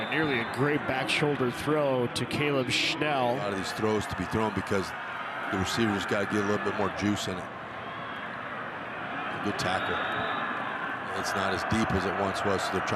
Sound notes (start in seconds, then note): 9.4 referee blows whistle